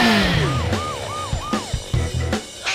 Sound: siren wails

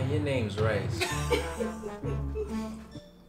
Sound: laughs; xylophone music

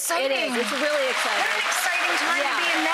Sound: audience clapping

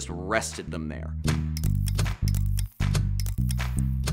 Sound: clicks

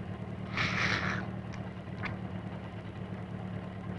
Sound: gasping

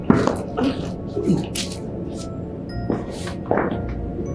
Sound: footsteps

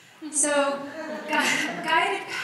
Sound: audience laughs

